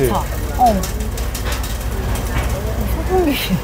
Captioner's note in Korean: 드르르륵